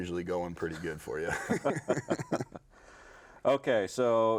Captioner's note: both laughing